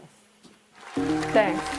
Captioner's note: cheers, applause